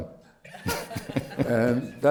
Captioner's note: laughter